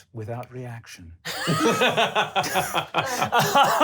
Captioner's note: laughs